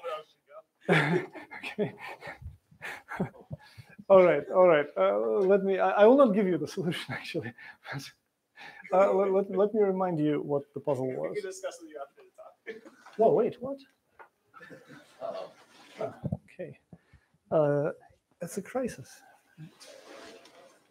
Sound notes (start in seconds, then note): 0.8 laughter; 14.6 laughter